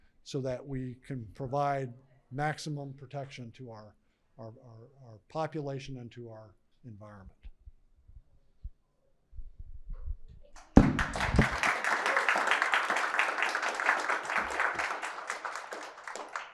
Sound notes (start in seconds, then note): 10.6 audience applauding